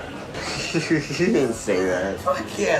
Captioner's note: Jeff laughs